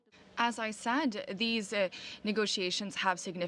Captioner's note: speaking french